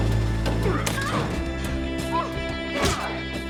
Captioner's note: Joe gasps; man grunting